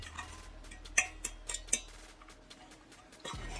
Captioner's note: tap, tap; tap, tap, tap, tap